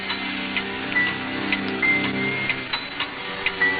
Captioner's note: clock chiming